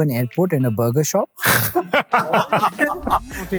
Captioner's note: loud laughter